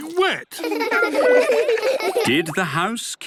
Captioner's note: laughter